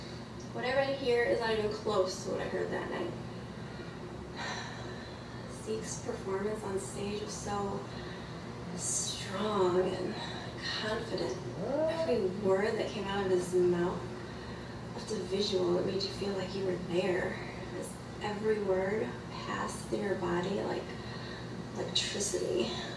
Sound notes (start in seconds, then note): 4.5 sighs